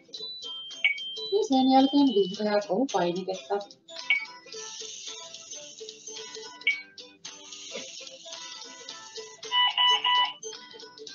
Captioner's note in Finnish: hyrryr, piip piip piip